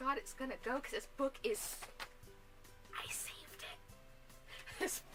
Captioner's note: whispers